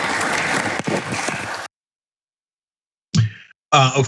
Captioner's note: applause